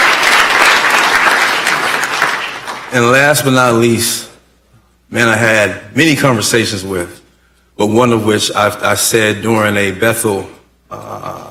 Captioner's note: applause